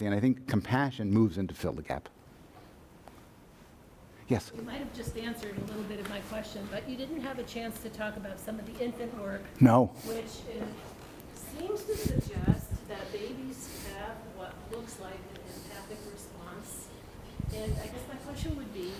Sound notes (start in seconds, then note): 4.7 voiceover; 9.6 voiceover